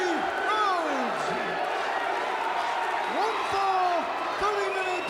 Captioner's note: crowd cheers, chants "Dusty"